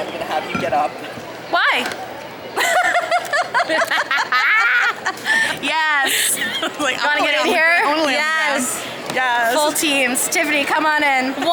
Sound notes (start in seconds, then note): 2.5 all laughing